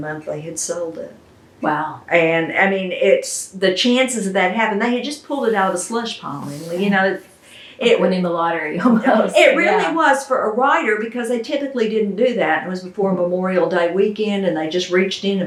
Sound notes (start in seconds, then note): 8.8 laughs